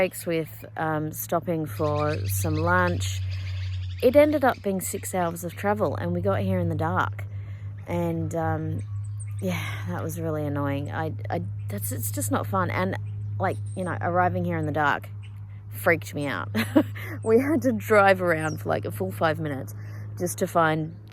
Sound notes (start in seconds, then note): 16.5 scoffs